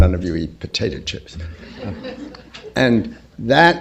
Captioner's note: laughter